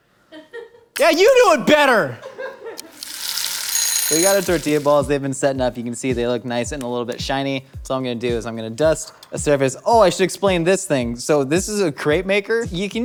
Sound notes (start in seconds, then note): 0.3 laughing; 2.9 timer ringing